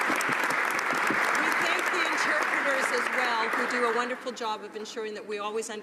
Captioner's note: applause